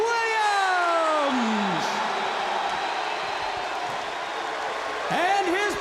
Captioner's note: crowd cheering